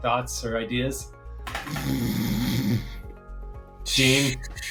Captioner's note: snores